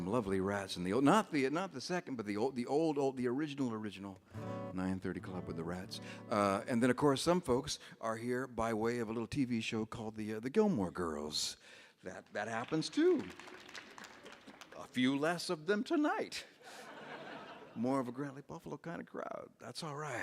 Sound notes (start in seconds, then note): 13.8 audience applauds; 16.6 audience laughs